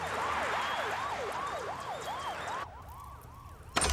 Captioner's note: siren blaring